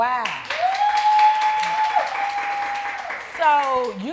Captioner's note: audience cheering